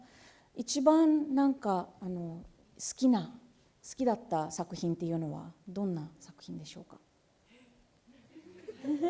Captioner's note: speaking japanese; laughter